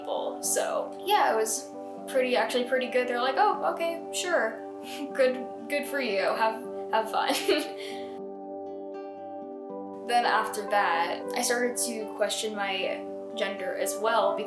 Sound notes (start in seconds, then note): 7.4 chuckle